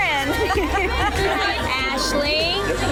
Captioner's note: laughing